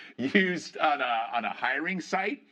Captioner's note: laughter